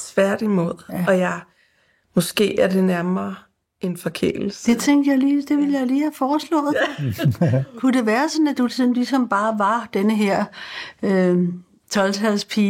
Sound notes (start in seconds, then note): 6.7 laughs